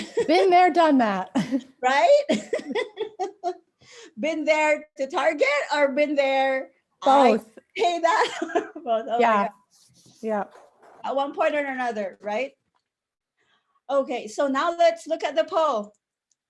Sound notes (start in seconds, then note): 2.2 laughter